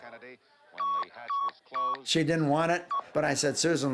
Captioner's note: beeping